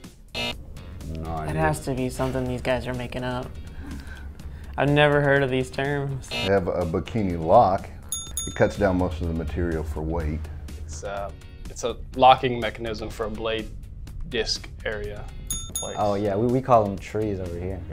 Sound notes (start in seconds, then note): 0.3 buzzer; 6.0 buzzer; 8.0 ding ding; 15.4 ding ding